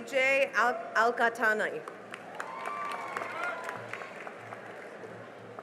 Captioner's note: cheering and applause